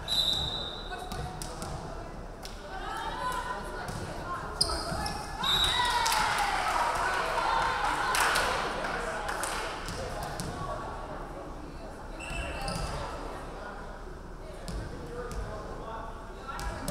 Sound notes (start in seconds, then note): 0.0 referee whistling; 5.4 referee whistling; 5.8 crowd clapping; 12.9 referee whistling